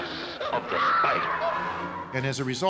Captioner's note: woman screams